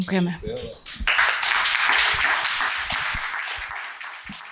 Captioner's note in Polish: oklaski